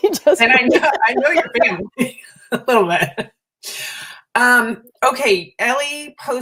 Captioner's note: laughter